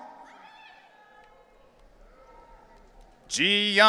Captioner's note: audience cheering